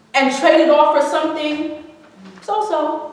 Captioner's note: none